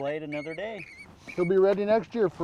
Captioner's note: fish splashing